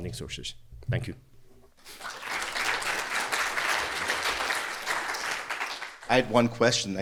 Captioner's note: applause